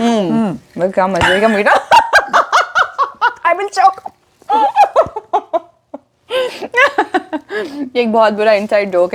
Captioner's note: fits of laughter